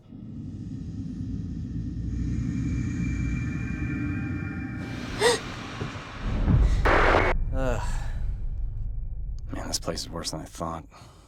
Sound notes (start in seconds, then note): 4.9 gasps; 6.9 static crackles